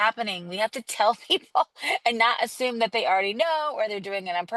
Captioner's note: laugh